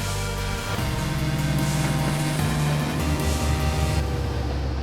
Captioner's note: boat engine roaring